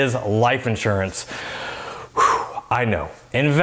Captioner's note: sighing